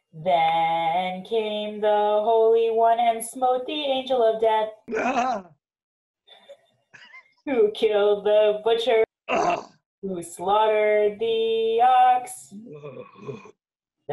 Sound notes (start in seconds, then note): 4.9 rabbi groans; 4.9 both laughing; 9.3 grunts; 12.9 rabbi moos